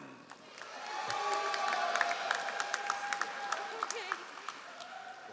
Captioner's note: all applauding